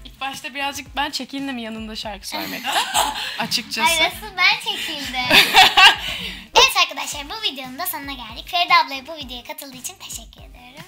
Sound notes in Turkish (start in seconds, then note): 2.3 Gülüyorlar; 5.2 Gülüyor